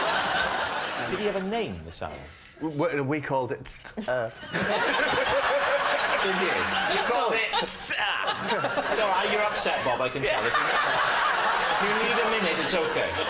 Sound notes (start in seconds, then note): 4.6 stifles laugh